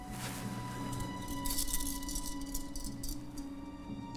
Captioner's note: handcuffs jangling